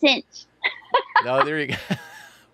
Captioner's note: laughs